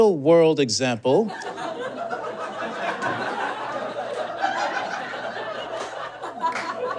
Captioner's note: audience laughs increasingly